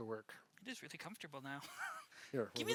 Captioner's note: chuckles